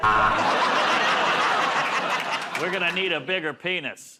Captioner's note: buzzer